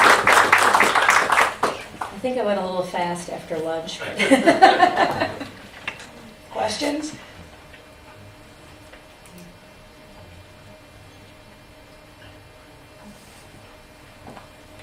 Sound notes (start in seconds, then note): 0.0 applause; 4.0 laughter